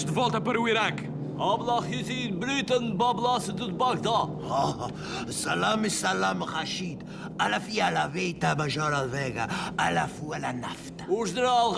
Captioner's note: pseudo-Arabic gibberish